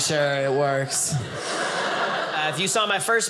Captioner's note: audience laughing